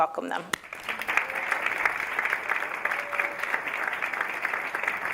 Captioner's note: audience applauding